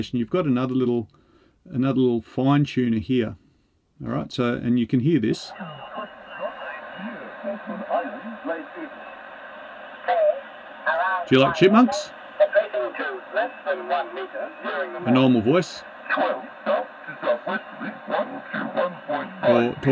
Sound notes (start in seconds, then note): 5.9 radio static